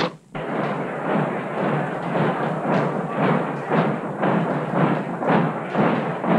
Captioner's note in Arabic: أقدام تدوس; ثرثرة خفيفة